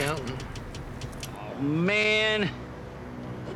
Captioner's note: clicking continues